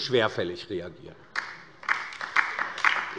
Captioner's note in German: Beifall bei der LINKEN